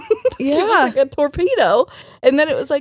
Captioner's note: laughing